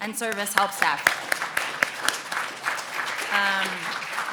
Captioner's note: applauding